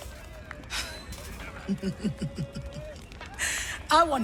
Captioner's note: laughing